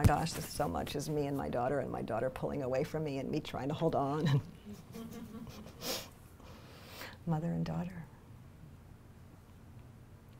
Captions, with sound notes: "Oh my gosh, this is so much me and my daughter "and my daughter pulling away from me "and me trying to hold on." (laughs) Mother and daughter.